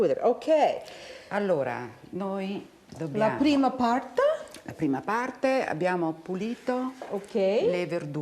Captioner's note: speaking Italian